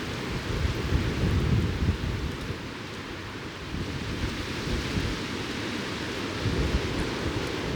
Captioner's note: wind blowing